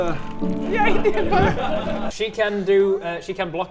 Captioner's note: laughs